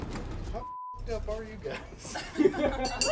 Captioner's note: beep; laughing; bell ringing